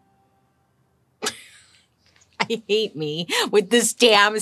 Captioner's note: laughs